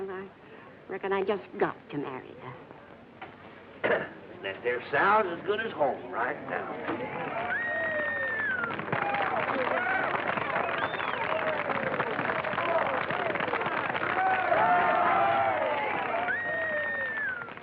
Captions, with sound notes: I reckon I just got to marry that. -That there sow's as good as home right now. [cheering]